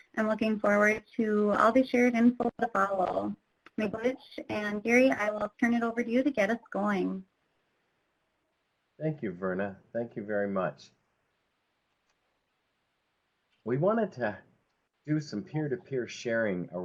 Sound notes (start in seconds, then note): 4.0 speaks in foreign language